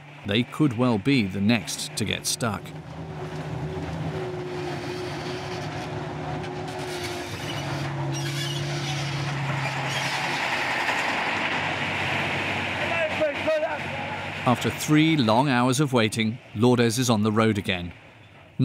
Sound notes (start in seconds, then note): 7.1 engine rumbling; 14.4 people chattering